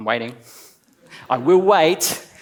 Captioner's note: laughs